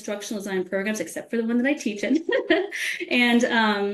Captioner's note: laughs